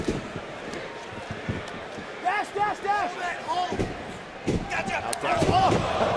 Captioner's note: crowd cheering